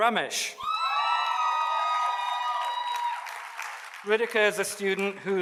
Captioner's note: audience cheers and applauds